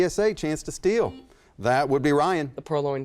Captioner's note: beeping